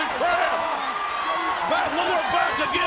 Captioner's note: audience cheering